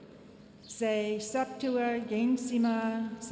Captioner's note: speaking latin